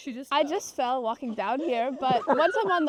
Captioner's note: laughter